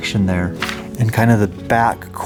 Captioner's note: pages turn